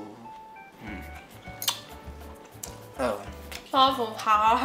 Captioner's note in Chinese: 吃得吱吱作響